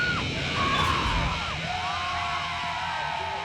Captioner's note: fans screaming